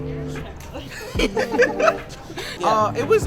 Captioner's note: laughing